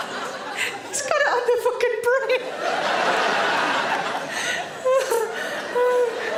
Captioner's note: laughs